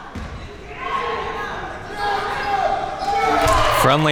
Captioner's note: spectators shouting